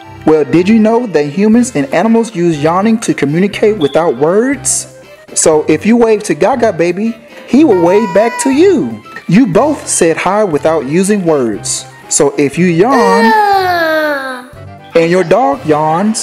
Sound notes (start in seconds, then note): 13.0 Goo Goo Gaga yawns